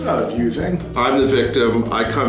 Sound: voiceover

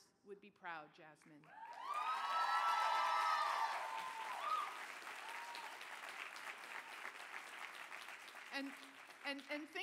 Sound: cheering

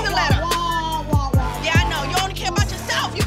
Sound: drones

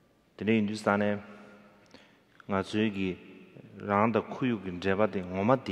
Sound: speaking in foreign language

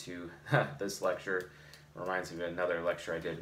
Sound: chuckles

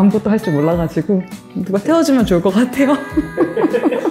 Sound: laugh

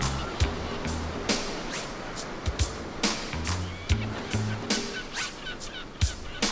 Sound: waves crashing; birds squawking

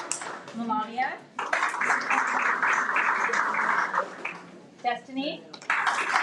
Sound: everyone applauds; everyone applauds

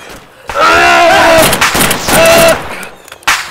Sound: guttural scream!

